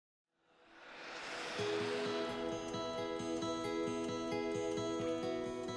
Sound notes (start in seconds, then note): 0.4 whooshing sound; 0.9 warm music plays